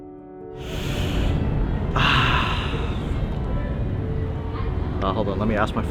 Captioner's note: light music; interviewee breathes deeply